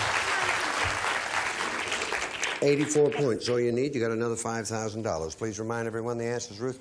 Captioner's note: applause